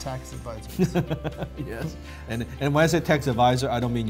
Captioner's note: laughs